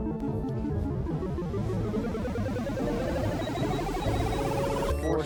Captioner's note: machine beeping